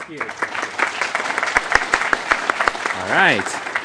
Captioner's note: applause